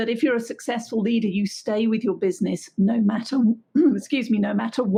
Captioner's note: coughs